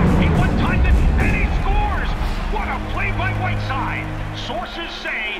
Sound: crowd cheering

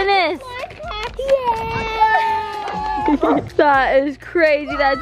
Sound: cheering

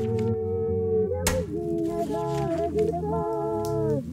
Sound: paper riffling; smacking; crackling

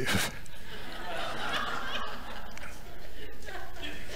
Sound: audience laughing

